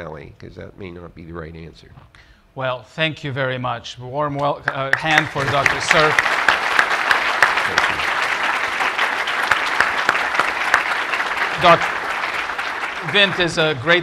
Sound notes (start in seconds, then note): 9.5 applause